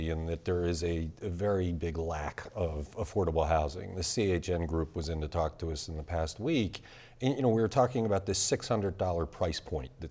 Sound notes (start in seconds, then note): none